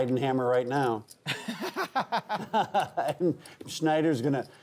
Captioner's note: hosts laugh